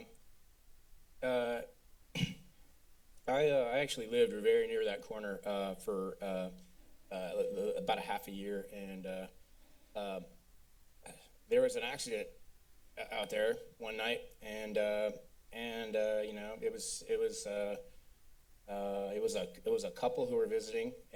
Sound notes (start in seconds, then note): 2.1 clears throat